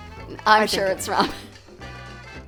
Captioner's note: laughs